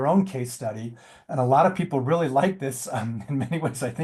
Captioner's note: chuckles